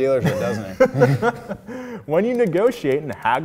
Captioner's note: both laughing